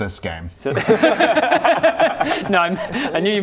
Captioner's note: should-we-be-concerned laugher